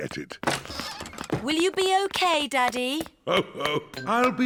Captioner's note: laughs